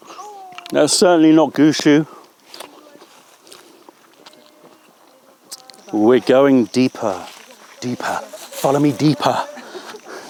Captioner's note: laughter